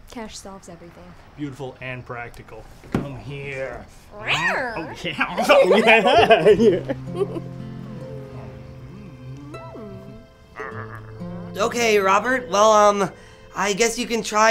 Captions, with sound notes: Cash solves everything. - Beautiful and practical. Come here! (Lily growls) - Oh yeah! (both laugh) - Ok, Robert, well I guess you can try